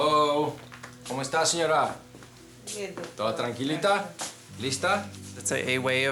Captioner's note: speaking in a foreign language